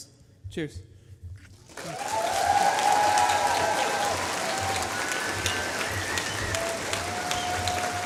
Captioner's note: applause